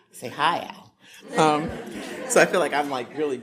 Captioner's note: audience laughing